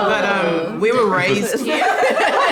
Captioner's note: everyone laughs happily